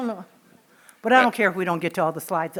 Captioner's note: laughing